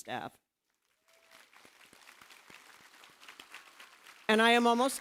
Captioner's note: applause